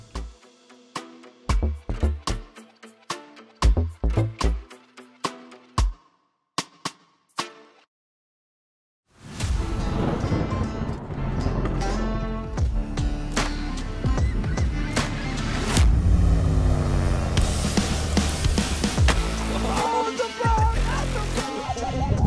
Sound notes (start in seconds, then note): 0.0 mellow music continues; 9.3 upbeat music begins; 9.6 thunder rumbles; 14.1 seagull squawking; 15.7 dramatic music; 20.6 laughing